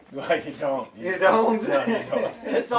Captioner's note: laughs